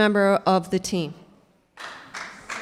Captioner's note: clapping